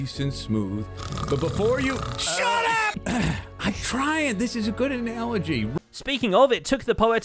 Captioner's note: fake snores; shouting; clears throat